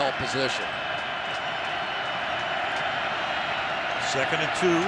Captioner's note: crowd cheering